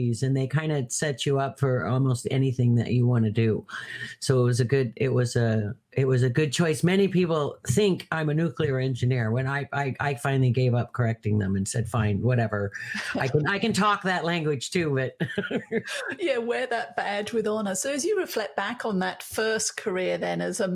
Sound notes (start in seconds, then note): 15.1 laughs